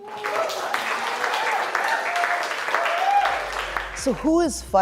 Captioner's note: audience cheering